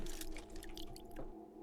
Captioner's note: water splashing